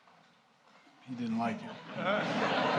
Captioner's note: laughter